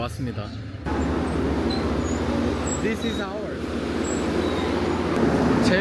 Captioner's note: train arrival